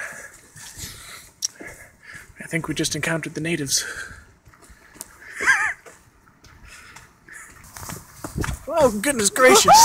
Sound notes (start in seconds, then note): 5.3 laughs